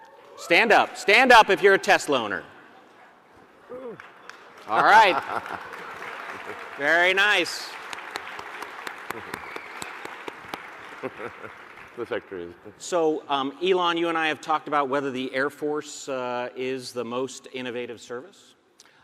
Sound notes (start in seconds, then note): 0.0 audience cheering; 4.7 Elon laughing; 6.8 audience applauding; 10.8 chuckling; 11.4 applause drowns out Elon